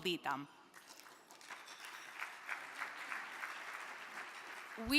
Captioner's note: crowd clapping